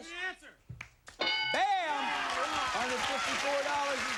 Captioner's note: cheers and applause